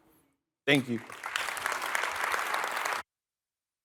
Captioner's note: applause